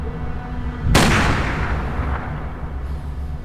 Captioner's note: gunshot